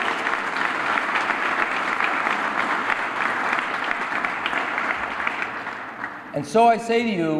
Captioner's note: applause